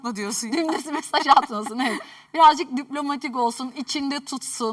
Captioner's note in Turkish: kahkaha